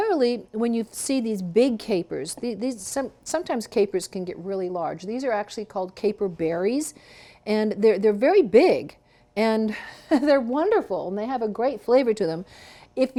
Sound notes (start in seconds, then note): 9.1 laughs